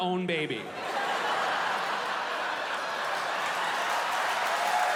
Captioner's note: audience laughing; audience cheering